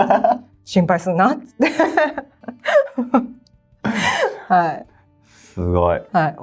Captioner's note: laughs